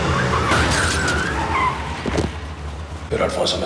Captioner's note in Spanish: Golpetazo